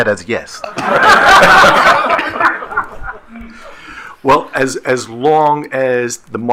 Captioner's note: attendees laughing